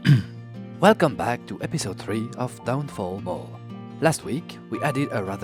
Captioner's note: French accent